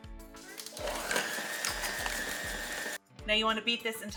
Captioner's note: mixer whirring